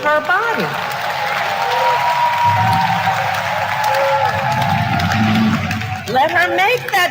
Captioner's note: applause